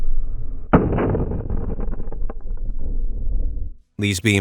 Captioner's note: explosion blasts